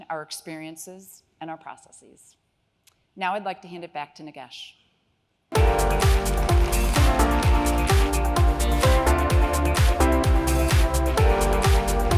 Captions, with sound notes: our experiences and our processes. Now I'd like to hand it back to Nagesh. (upbeat music) (audience applause)